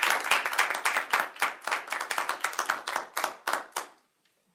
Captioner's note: group applauds